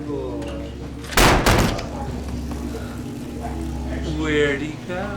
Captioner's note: slamming door